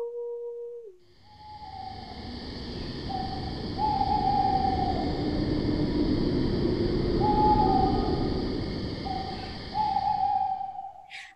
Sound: the wind howls

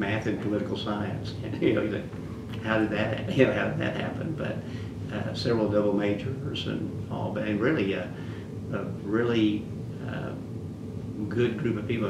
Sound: laughs

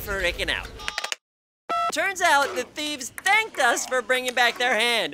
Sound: beeps

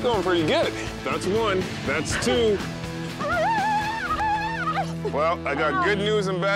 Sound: screams

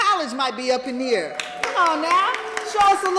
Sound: applause

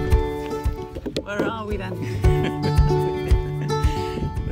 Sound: laughter

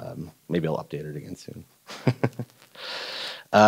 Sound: laughing

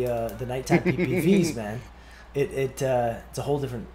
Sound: laugh

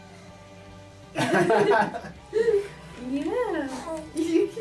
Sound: laughing

